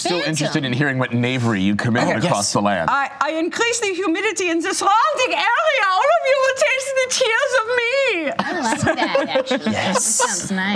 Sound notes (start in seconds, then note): 3.0 imitating German accent